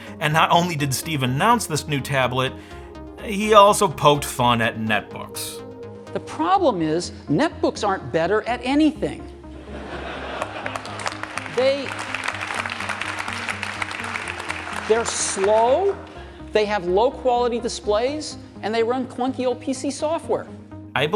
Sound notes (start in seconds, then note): 9.7 audience laughing; 12.0 audience applauding